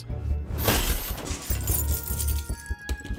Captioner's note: keys jingling; curious music plays